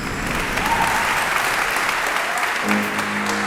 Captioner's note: crowd clapping; piano music